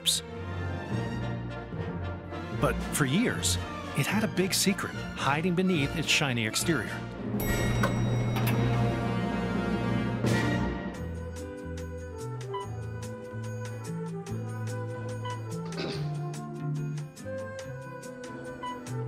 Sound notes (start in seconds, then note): 11.8 elevator music playing; 15.6 clears throat